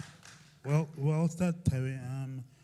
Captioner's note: cheering